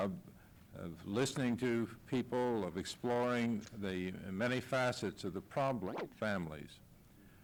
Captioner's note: camera noise